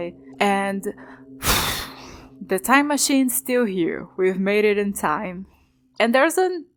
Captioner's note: oof